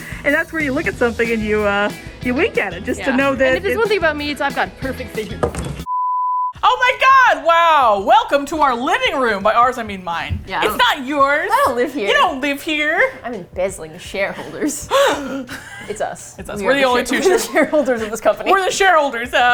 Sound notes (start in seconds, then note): 5.6 clunk; 11.2 cheerfully; 14.8 gasps